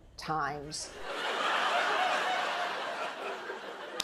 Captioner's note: laughter